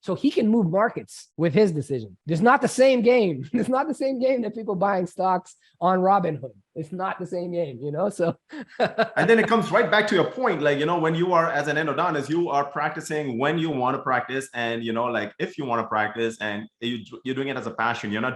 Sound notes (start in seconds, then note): 8.2 laughs